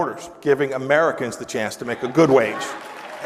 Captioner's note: applause